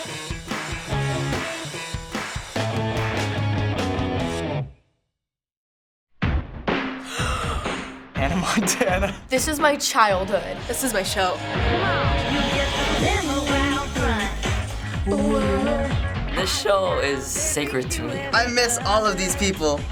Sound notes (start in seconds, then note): 7.0 deep gasp; 8.2 laughing; 13.8 singing softly